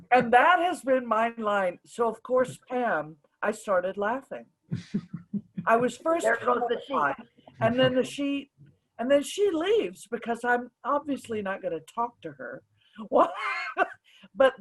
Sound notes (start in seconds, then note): 4.8 chuckles; 13.2 laughs